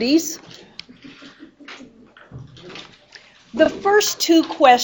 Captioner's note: student laughs